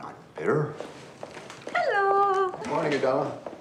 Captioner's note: footsteps tapping